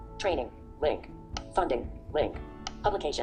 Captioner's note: clicking sound